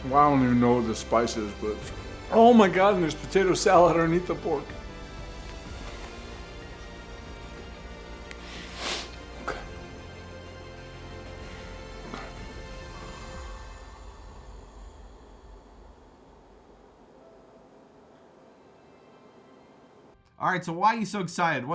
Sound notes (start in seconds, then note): 8.3 sniffs; 12.8 snores